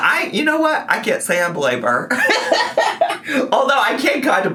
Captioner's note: laughs